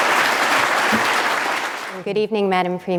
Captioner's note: applause